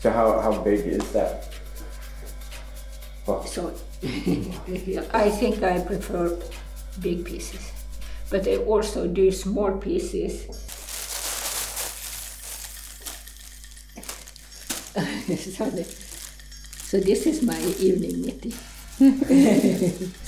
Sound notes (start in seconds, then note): 15.0 chuckling; 19.0 laughing